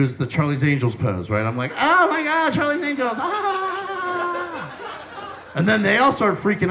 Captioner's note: giggling